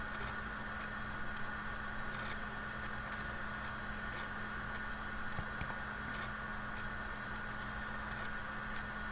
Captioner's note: student typing question